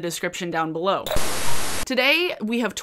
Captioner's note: static